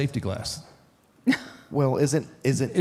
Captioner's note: Michelle laughs